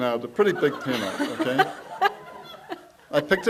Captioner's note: audience laughs; laughs